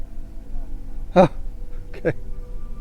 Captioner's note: mumbles